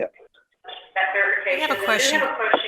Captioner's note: speaker echoing